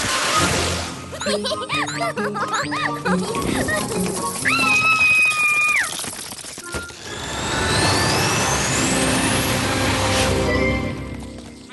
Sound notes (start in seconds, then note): 1.2 giggles; 4.4 scream